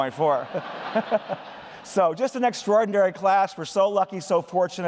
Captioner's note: laughter